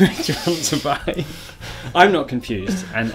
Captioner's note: laughs